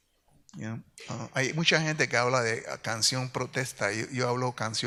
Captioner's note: speaks in Spanish